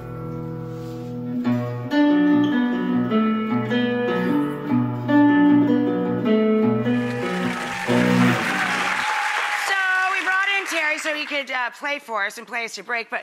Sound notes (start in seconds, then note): 0.0 light guitar music; 6.9 audience cheers